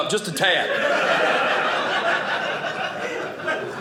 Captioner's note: audience laughing